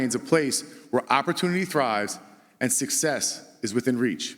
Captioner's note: none